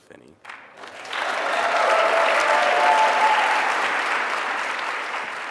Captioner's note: attendees cheering